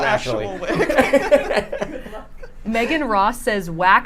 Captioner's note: group laughs